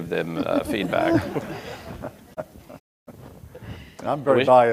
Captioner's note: audience laughing